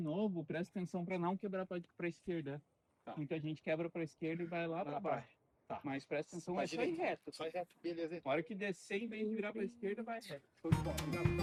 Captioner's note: speaking Portuguese